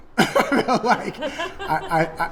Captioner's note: laughing